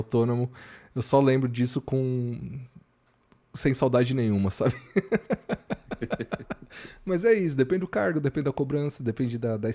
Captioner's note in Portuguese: risadas